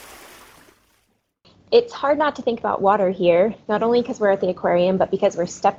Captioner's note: splash sound